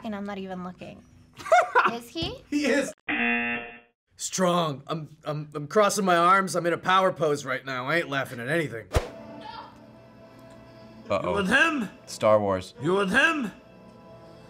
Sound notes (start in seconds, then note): 1.5 laughs; 3.0 buzzer